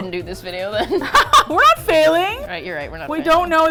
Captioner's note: laughs; indignantly